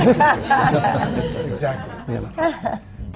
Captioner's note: laughter